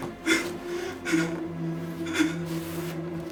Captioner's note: crying